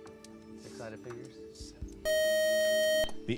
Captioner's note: time up buzzer